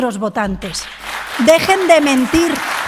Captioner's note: applause